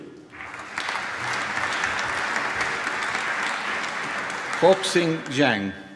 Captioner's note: applause